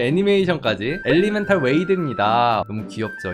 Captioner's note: voiceover